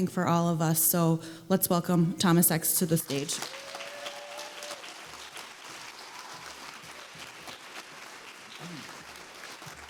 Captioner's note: applause